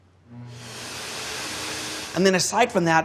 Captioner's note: hand dryer whirs